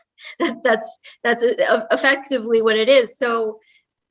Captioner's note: laugh